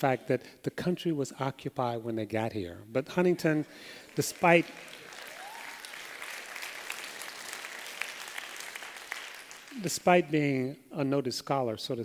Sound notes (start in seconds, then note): 3.8 applause